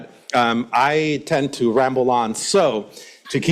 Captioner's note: laughs